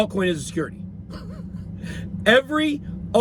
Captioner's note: chuckles